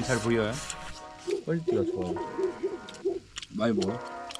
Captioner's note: big dog shouts